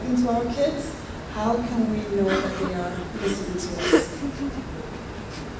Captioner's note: laughter